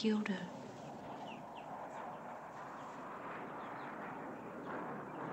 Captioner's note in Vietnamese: Tiếng máy bay phản lực bay qua